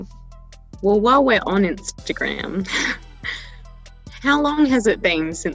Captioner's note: laughing